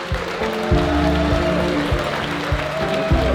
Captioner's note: cheering